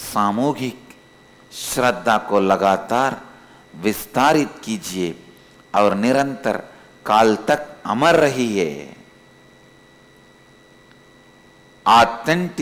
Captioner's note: hindi